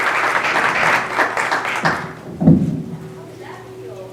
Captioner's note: applause